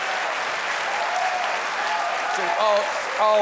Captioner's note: cheers and applause